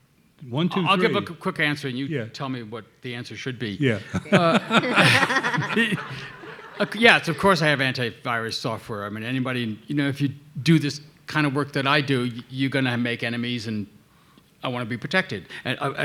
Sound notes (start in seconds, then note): 3.9 laughing; 4.0 everybody laughing